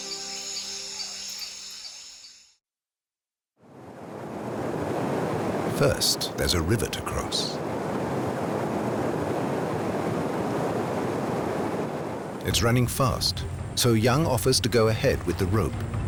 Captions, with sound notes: (birds chirping) (water rushing) First, there's a river to cross. It's running fast, so Yung offers to go ahead with the rope.